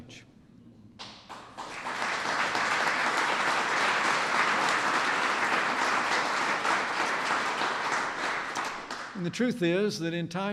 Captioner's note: applause